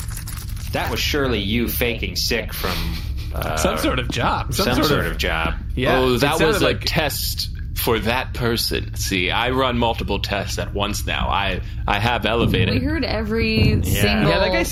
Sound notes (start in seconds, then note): 2.6 laughing